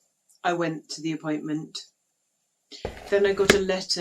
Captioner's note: letterbox opens and closes